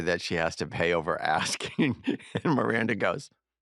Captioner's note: chuckles